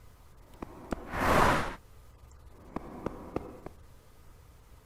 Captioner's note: car whooshing